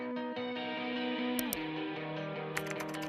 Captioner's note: vibrant music; mouse click; keys clacking